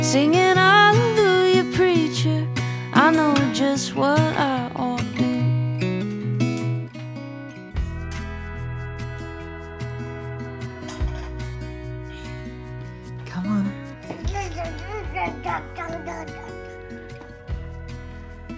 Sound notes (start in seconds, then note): 14.0 babbling